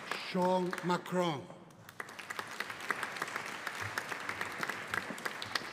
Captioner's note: audience applauding